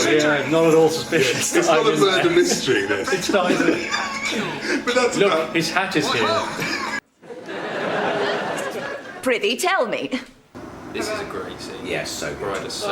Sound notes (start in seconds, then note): 1.0 laughs